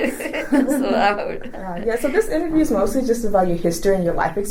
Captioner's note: laughs